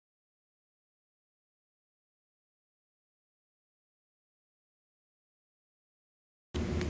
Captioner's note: silence